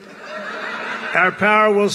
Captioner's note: laughter